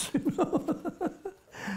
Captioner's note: laughs